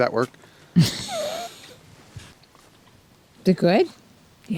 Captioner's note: camera operator laughs